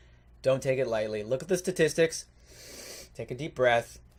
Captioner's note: inhales